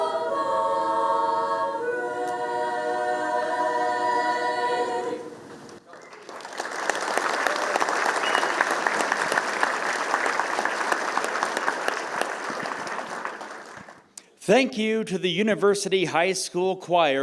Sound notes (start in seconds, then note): 5.8 applause